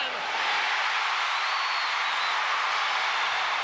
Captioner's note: crowd cheering